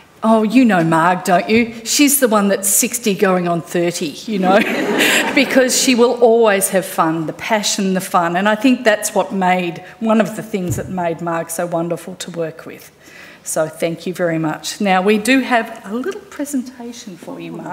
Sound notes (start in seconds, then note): 4.4 audience laughing